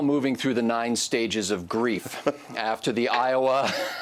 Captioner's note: laughs